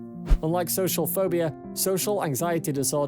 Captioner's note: screen swishes